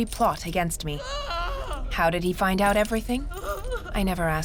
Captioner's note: woman screaming; screaming